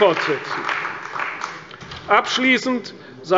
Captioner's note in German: Beifall bei der CDU